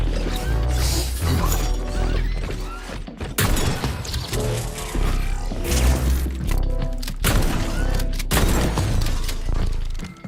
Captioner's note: gunshots